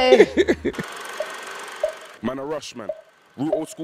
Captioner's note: laughing; film reel player clicking